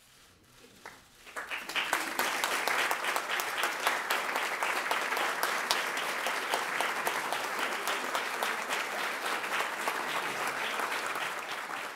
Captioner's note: applause